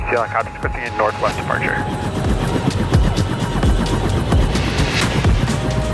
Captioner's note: faded static radio; upbeat music